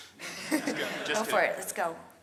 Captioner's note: audience laughs